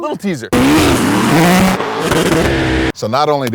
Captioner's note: engines buzzing and roaring